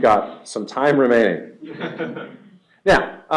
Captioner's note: laughter